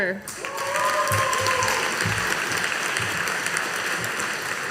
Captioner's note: audience applauding